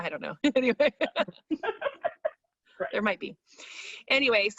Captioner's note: laughs